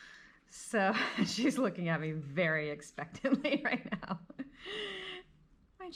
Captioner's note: laughs